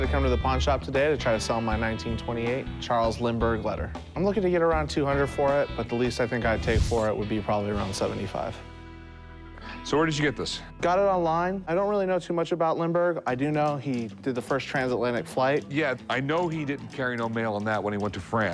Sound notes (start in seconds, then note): none